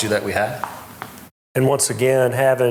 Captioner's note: tapping